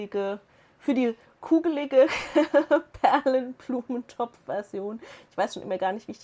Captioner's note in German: Lachen